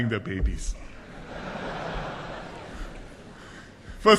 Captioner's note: laughter